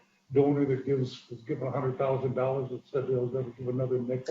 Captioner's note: distorted sound